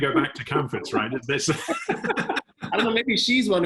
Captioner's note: laugh